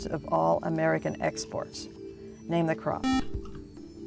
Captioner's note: buzzer